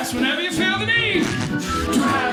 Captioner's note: fart squeaking